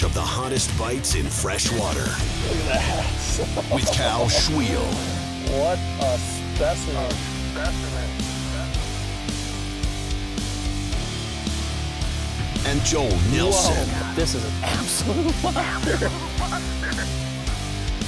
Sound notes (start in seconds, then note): 8.6 rock music; 13.0 voiceover